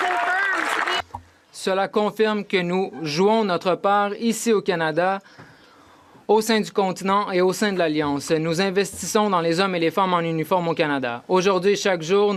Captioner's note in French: applaudissements